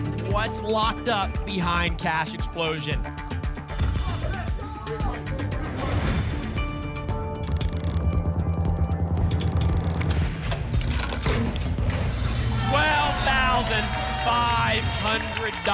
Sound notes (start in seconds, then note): 3.8 thump; 5.6 whoosh; 7.4 clicks; 10.4 cash register sounds